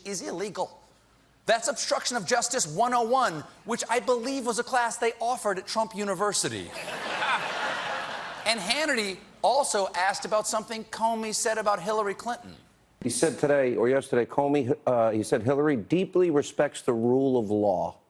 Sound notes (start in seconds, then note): 6.7 laughter